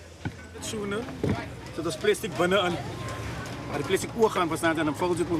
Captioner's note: man speaking foreign language